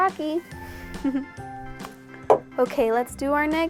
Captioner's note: laughs